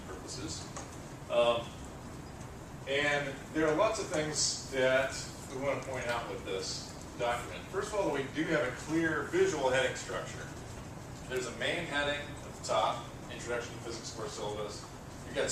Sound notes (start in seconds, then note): none